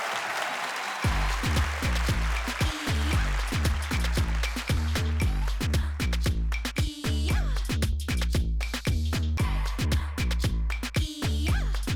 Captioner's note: applause